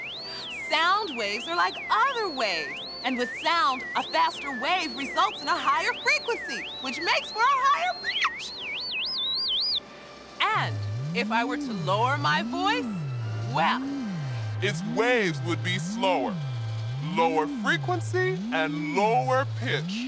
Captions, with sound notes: SOUND WAVES ARE LIKE OTHER WAVES. AND WITH SOUND, A FASTER WAVE RESULTS IN A HIGHER FREQUENCY, [ High-pitched voice ] WHICH MAKES FOR A HIGHER PITCH! [ Normal voice ] AND IF I WERE TO LOWER MY VOICE, WELL, [ Deep voice ] ITS WAVES WOULD BE SLOWER -- LOWER FREQUENCY AND LOWER PITCH.